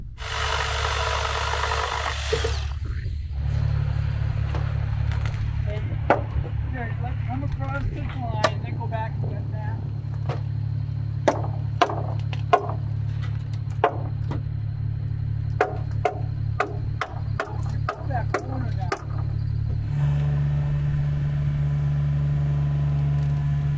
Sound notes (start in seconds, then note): 0.1 machine drilling; 3.2 machine engine rumbling; 10.3 machine engine rumbling; 12.4 hammer banging; 20.2 machine engine rumbling